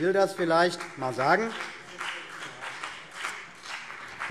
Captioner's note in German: Beifall CDU und BÜNDNIS 90/DIE GRÜNEN